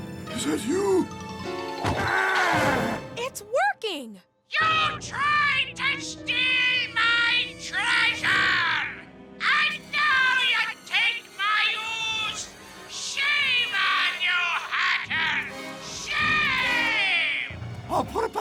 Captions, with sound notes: UH! IVANKA! IS THAT YOU? (SCARED GASPS) IT'S WORKING! YOU TRIED TO STEAL MY TREASURE... AND NOW YOU TAKE MY OOZE? SHAME ON YOU, HACKER. SHAME!